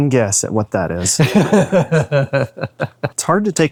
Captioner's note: both laughing